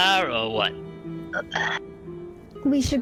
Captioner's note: Krel heavy breath